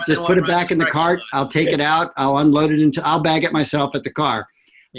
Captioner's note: laughter